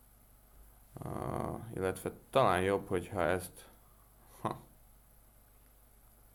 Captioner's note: hah